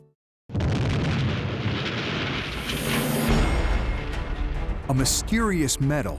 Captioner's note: ground exploding